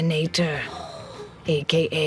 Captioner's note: gasps